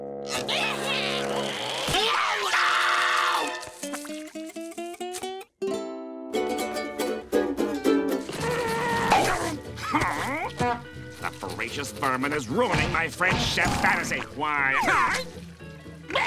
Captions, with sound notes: Ah-hah! - Hah! - Ow! [tuning a banjo] [grunting] Hmm... That voracious vermin is ruining my French chef fantasy. Why... Ah!